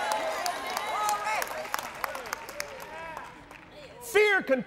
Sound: applauds

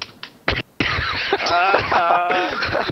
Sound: laughter

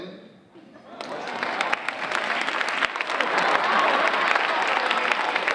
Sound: audience applauding

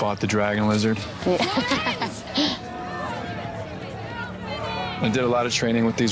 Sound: laughs

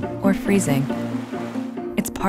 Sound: water rushing

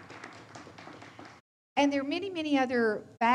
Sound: audience applauds

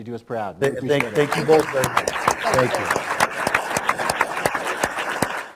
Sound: applause

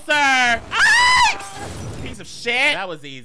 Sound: screaming; molotov smashing

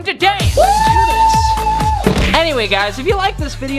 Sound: screams

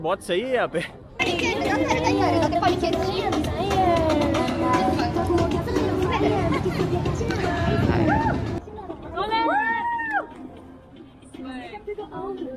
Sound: noises from the streets

